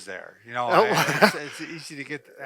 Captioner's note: laughs